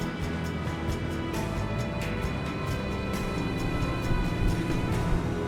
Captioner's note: engine revving